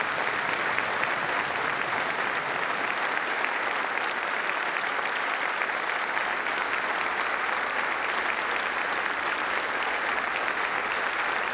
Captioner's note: applause